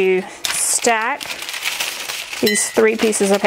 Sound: paper rustling

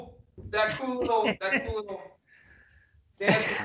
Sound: laughs loudly

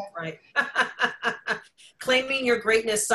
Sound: laughs

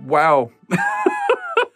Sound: laughs

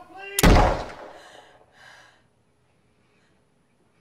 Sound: gun fires

